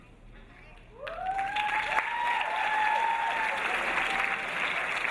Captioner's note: audience cheering